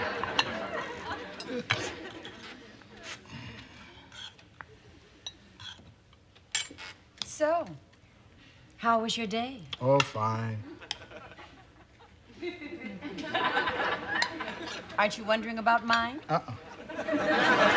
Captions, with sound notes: [chuckles] SO, HOW WAS YOUR DAY? OH, FINE. AREN'T YOU WONDERING ABOUT MINE? UH-UH.